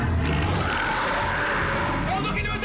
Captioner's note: screeches; gasping